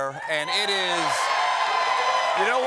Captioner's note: cheers and applause